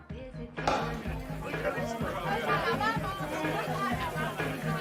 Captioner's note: Obrolan Seru, Pemutaran Musik